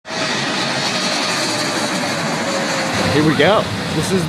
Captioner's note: airplane Noise